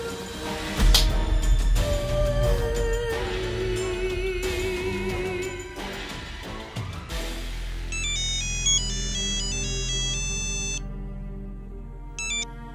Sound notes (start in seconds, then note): 5.9 tense music; 7.9 phone ringing